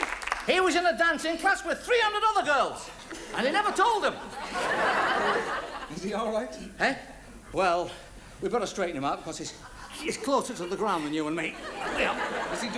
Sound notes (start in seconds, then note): 3.3 audience laughs